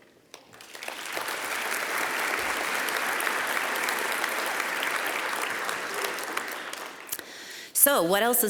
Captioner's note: applause